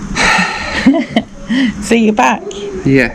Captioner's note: laughing